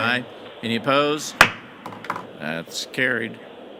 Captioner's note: gavel banging